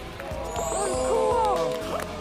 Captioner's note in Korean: 쪽~